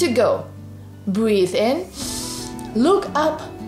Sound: breathes in deeply

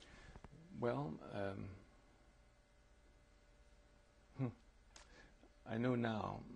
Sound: pauses for 3 seconds

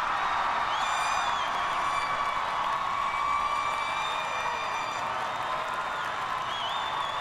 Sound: cheers and applause

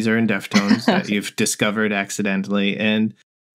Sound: laughter

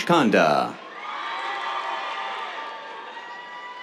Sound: cheers

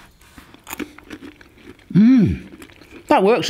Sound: crunching

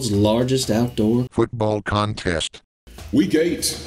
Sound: automated Voiceover

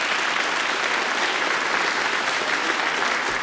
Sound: applause

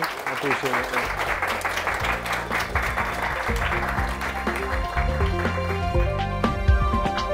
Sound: applause

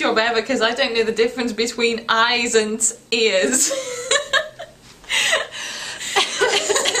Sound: laughing

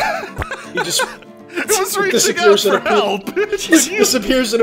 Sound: laughter

